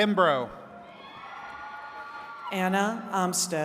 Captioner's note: attendees cheering